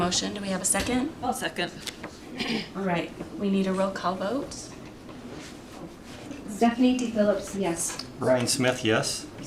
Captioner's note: clears throat